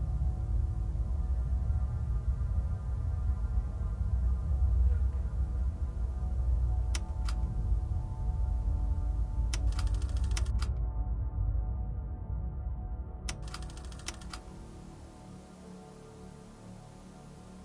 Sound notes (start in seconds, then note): 0.2 gloomy music continues; 7.0 button clicks; 8.2 gloomy music; 9.6 button clicks; 9.6 projector clatters; 11.0 gloomy music; 13.3 button clicks; 13.3 projector clattering; 14.9 gloomy music